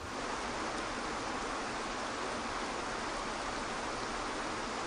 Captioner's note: water rushes softly